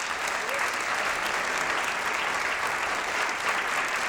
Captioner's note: applause